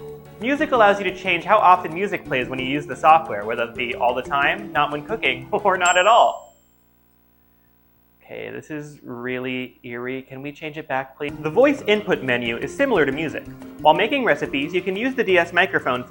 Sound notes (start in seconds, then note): 6.9 total silence